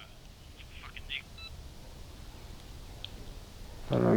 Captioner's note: call disconnects